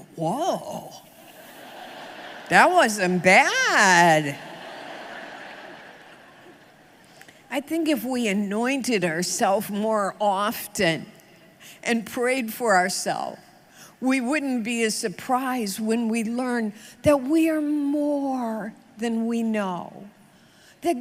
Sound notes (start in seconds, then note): 4.1 audience laughs